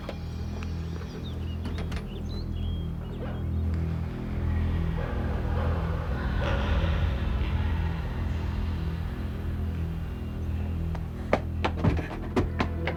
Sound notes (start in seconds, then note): 0.9 birds tweeting; 3.1 dog barking